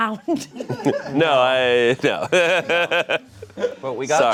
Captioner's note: laughs; laughs